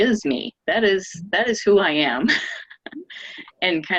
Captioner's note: laughing